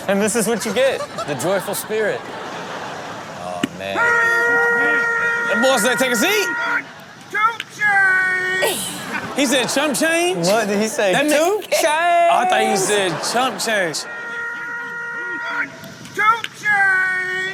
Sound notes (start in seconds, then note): 4.5 umpire yelling